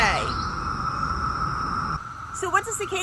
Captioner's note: cicadas buzzing